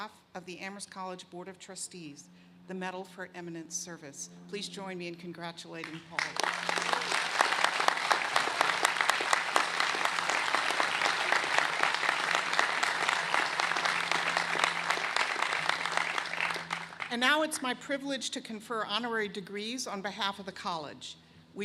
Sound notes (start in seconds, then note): 7.7 applause